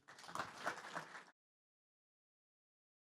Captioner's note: applause